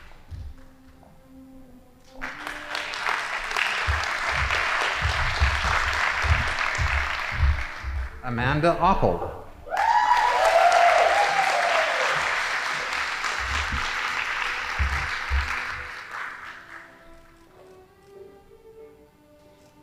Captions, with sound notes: Amanda Opal. (audience applauding) (band playing)